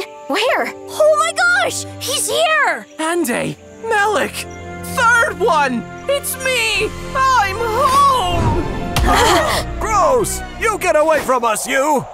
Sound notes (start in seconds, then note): 7.9 uplifting music; 9.0 all gasping; 9.1 disappointing music